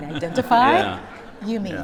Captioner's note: laughter